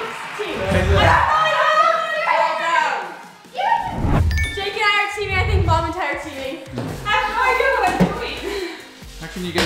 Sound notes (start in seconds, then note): 1.3 yelling